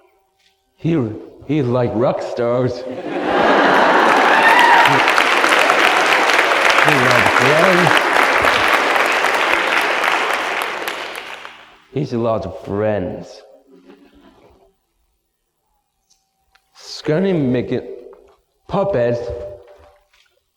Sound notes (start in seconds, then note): 2.8 audience laughs, then bursts into applause; 7.0 applause continues; 9.3 applause fades